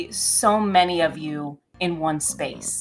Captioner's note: Butters growling